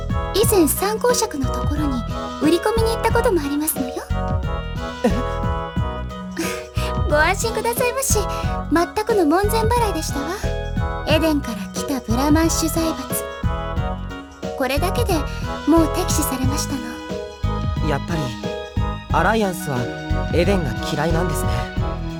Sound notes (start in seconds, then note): 5.0 chuckle